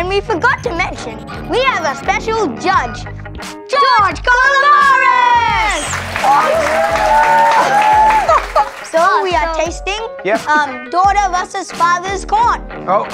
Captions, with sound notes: and we forgot to mention we have a special judge, George Calombaris! (crowd cheering) So we are tasting daughter versus father's corn.